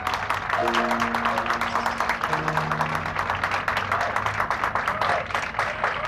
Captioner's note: applause